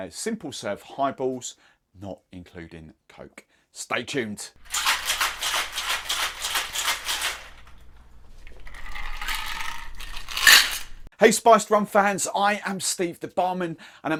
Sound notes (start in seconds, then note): 4.7 ice rattling; 8.4 liquid pouring